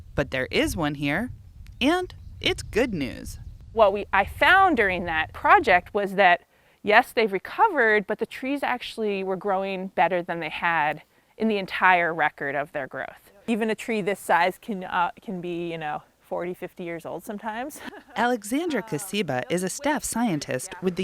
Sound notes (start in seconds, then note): 17.7 chuckles